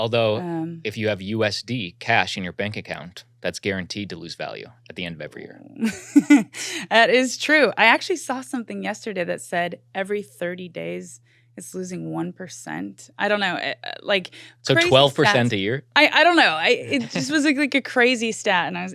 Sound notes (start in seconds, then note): 5.9 laughing